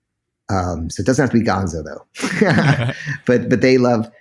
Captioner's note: laughs